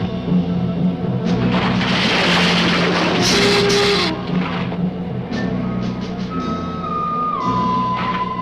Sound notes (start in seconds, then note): 1.2 bridge rattling; 3.2 lizard hissing